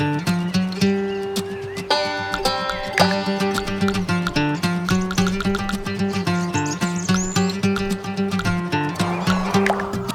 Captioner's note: typing